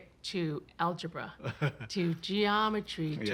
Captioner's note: laughs